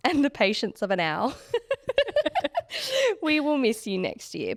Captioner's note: both laughing